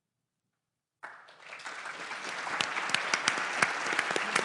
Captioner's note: applause